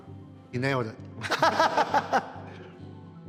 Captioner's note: laughs